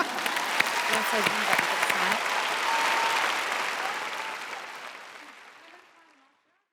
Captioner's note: applause